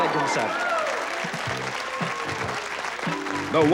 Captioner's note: cheering and applause